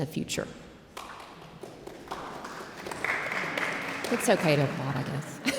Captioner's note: audience applauds; laughs